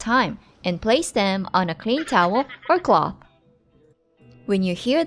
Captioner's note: chipmunk laughing